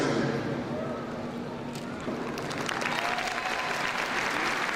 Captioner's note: crowd cheering